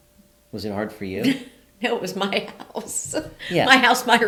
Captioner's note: laughs